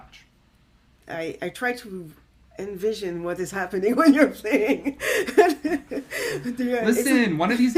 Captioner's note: laughs